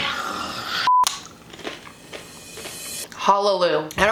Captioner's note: chip crunching